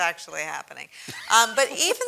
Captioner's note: laugh